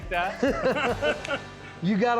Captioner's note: laughter